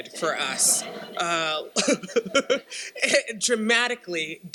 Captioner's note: laughs